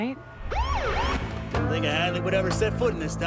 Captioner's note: siren blasts